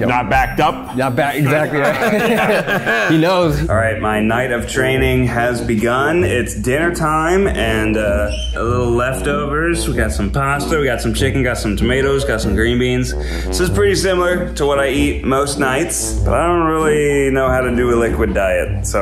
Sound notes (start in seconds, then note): 1.4 all chuckling